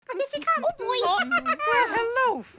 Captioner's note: giggles